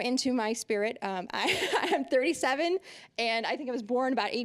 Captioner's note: laughing